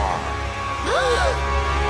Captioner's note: gasp